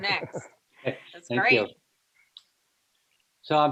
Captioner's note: laughs